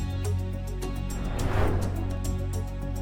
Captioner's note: suspenseful music continues; transition whooshing